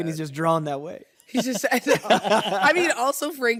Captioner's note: all laugh